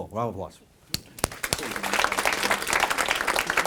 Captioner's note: applause